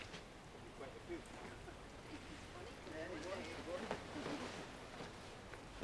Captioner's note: Robert and Amanda chattering